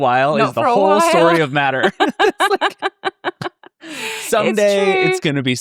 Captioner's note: laughs